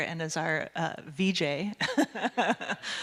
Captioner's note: audience laughing